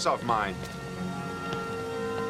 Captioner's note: footsteps